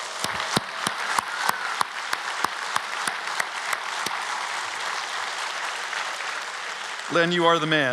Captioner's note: applause